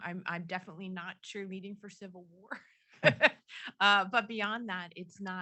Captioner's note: chuckles